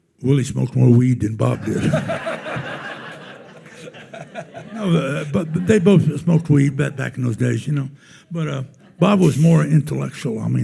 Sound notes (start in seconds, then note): 1.4 attendees laughing